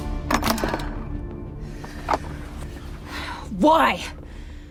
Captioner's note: box clatters